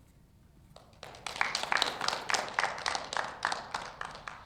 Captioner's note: audience applauds